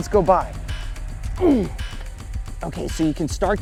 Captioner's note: grunts